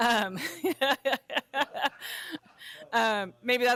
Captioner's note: laughter